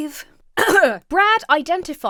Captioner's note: clears throat